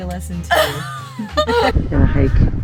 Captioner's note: both laugh